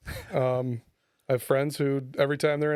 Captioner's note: laughing